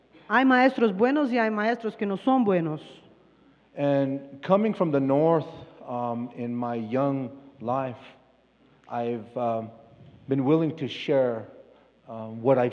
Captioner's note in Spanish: Expositor habla en inglés